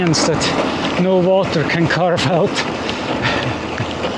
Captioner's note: laughter